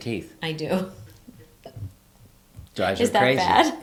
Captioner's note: laughs